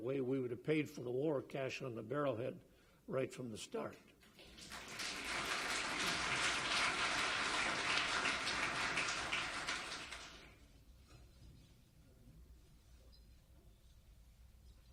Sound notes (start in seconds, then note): 4.3 audience applauds